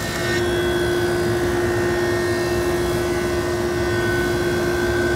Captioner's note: machine humming